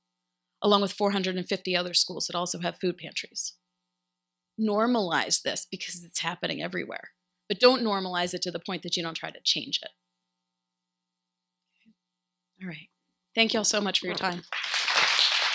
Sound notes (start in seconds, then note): 14.0 applause